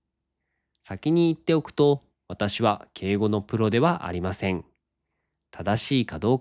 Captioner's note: polite Japanese